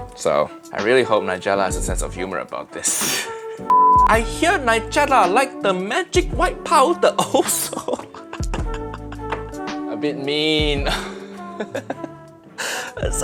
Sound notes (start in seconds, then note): 3.3 laughing; 3.7 signal beeping; 7.1 laughs; 11.8 laughs